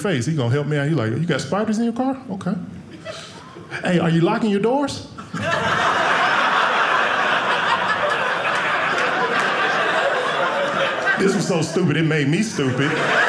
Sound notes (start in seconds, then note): 5.2 audience laughing